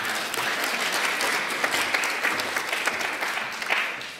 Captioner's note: applause